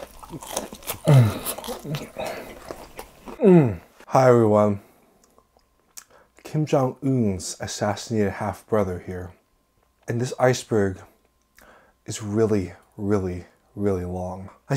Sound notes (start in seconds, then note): 0.0 loud crunching